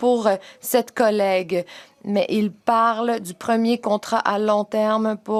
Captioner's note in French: voix de l'interprète